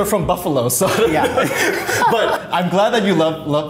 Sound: both laughing

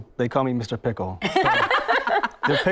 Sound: laughter

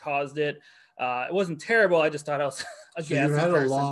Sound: chuckles

